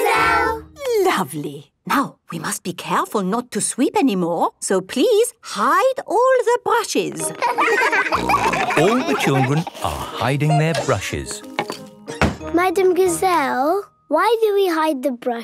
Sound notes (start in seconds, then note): 7.2 laughter; 8.1 snorting